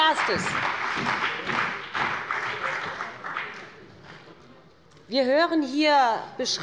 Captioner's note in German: Beifall bei BÜNDNIS 90/DIE GRÜNEN und der CDU